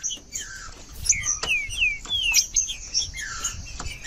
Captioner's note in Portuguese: trinca ferro cantando